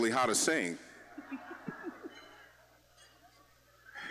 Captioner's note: scattered laughing